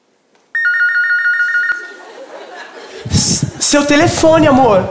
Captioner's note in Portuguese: toque de telefone